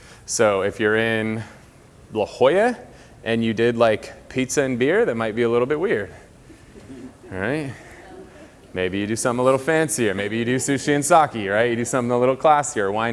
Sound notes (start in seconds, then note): 6.5 light laughing